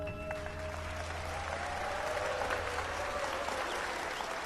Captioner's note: audience applauding